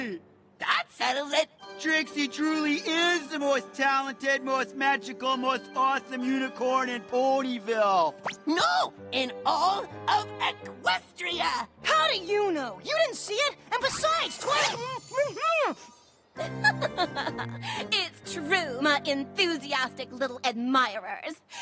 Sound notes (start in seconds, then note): 14.7 tinkling; 16.4 laughs